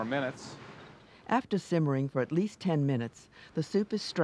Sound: voiceover

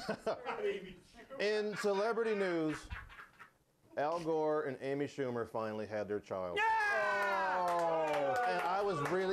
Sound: scattered applause

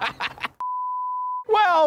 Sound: laughing; screen beeps

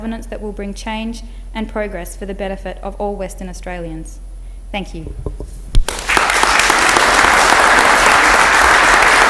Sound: applause

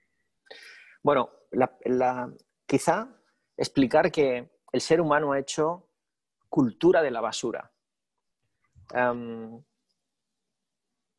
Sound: speaking spanish

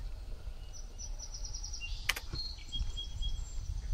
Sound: birds chirping

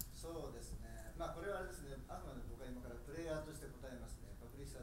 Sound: speaking in foreign language

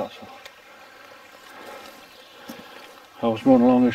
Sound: burbling water

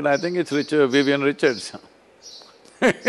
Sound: laughs

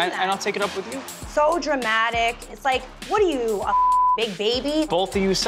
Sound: beep

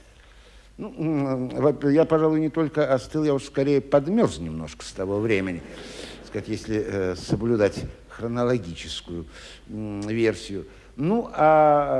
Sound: laughs in audience

